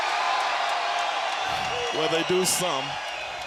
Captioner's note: crowd cheering